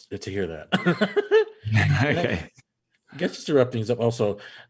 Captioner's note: man laughing